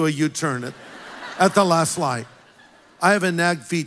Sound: congregation laughs

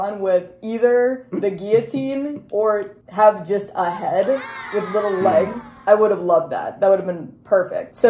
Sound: kids cheering

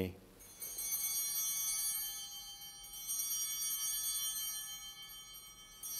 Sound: chimes ringing

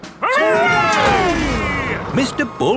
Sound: all cheering

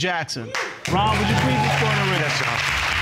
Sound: audience cheering

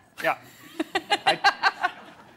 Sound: giggles

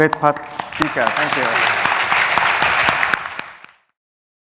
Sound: applause

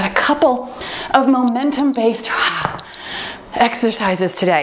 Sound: timer beeps

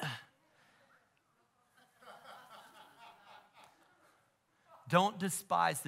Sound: congregation laughing

